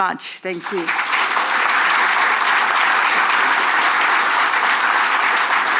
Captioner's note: audience applauding